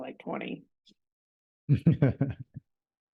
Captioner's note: laughing